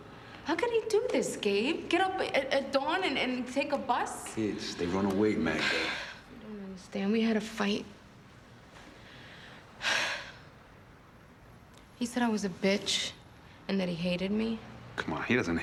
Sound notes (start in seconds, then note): 9.8 sighs